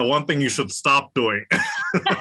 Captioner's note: laugh